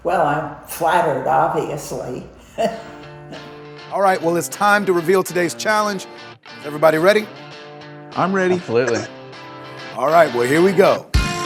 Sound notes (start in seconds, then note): 2.5 laughs; 3.8 upbeat music; 11.2 upbeat music